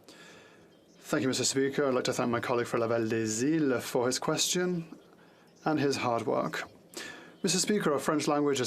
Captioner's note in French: voix de l'interprète